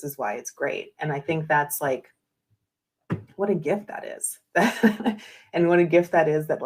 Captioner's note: laughs